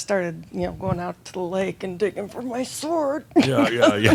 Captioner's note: she chuckles